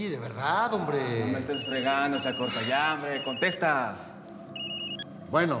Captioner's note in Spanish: suena un celular